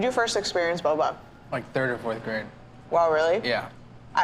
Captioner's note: none